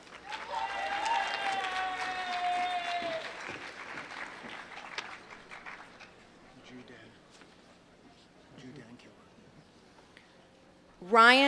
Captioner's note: applause